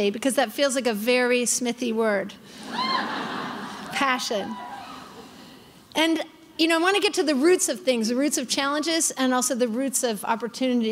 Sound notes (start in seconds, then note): 2.6 crowd laughing